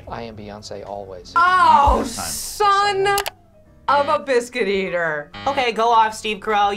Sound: buzzer

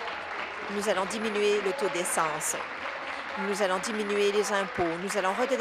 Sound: applause

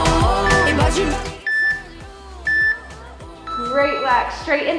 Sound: timer beeping

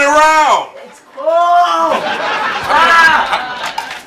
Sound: audience laughs

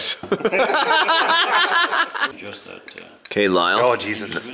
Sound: men laugh

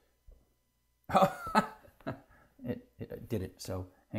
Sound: laugh

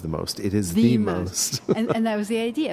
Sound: laughs

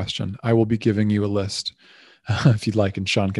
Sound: laughing

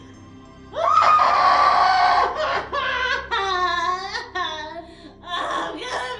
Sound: crying VERY loudly

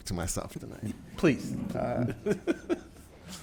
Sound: laughs

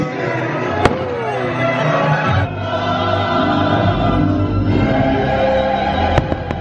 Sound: fireworks crackling

